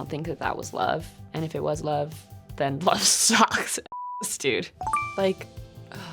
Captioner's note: beep